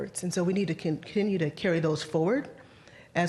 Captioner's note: none